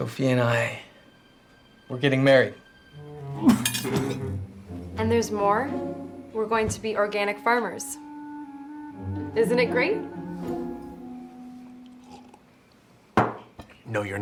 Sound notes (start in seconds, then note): 3.3 coughs